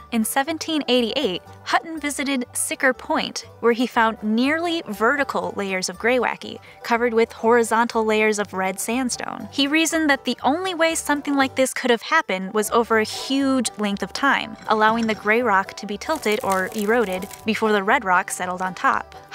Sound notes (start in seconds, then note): 14.2 rock scrapes; 16.0 sand clatters